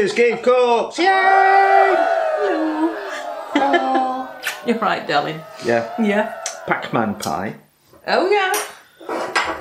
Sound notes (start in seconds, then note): 1.0 cheerin